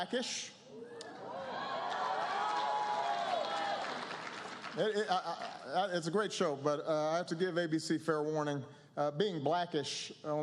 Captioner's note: applause, cheers